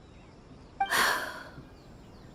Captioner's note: sigh